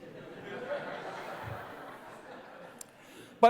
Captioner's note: laughter